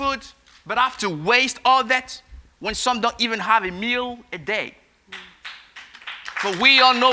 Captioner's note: applause